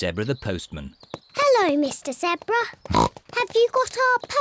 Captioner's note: oink